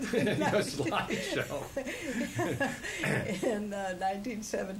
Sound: laughter

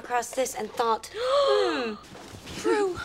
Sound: gasping

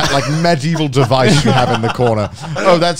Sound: laughing

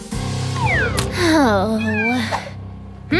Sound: sighs; meows

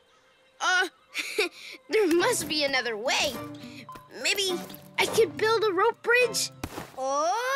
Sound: giggles

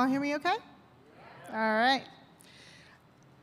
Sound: audience confirms

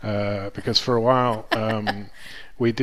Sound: laughs

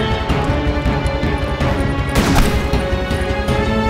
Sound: gunfire and ricochets

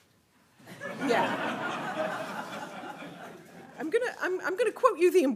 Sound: audience laughing

